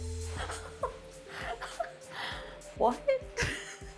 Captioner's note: laughing